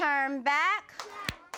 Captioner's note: clapping